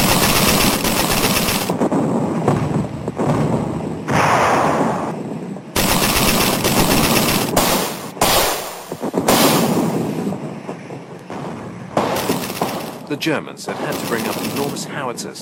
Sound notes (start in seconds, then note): 0.0 guns firing; 1.8 bombs exploding; 3.2 guns firing; 4.9 bombs exploding; 5.7 guns firing